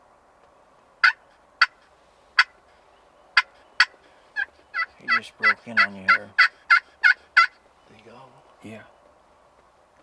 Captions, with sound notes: (multiple turkey calls) (whispers) He just broke in on there. - Did he go? - Yeah.